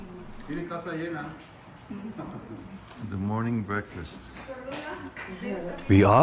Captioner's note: background Spanish chatter